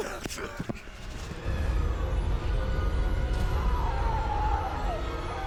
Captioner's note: people screaming